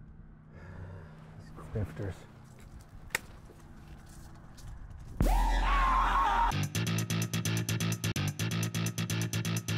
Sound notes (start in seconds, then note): 0.5 sighs; 5.2 screams; 5.2 electronic music